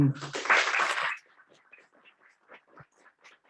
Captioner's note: applause